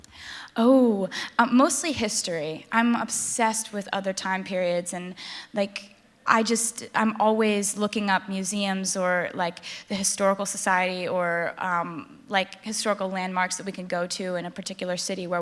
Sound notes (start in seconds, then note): none